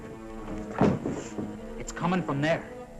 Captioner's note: muffled thumping